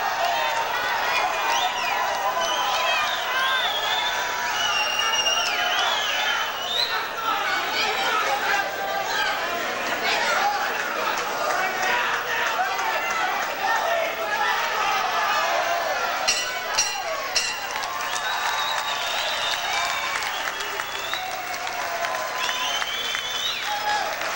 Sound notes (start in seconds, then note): 0.3 loud cheering from the audience; 16.2 bell rings three times to end the fight; 18.8 audience applauds and cheers